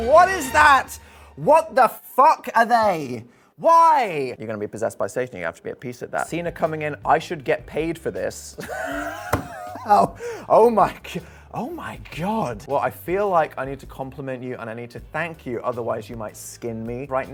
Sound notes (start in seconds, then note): 8.6 wheezing laughter